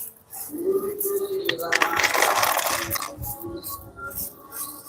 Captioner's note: glass flakes shaken